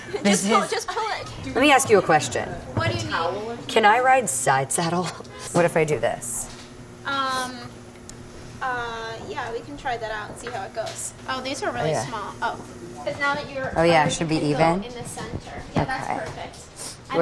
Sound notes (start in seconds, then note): 5.1 laughs